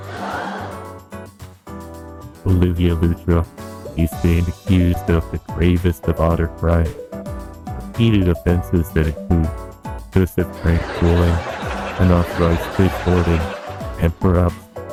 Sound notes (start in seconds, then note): 2.9 gravely serious, voice echoing